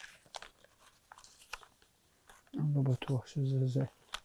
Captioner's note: hebrew